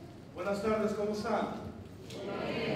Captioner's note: non-english speech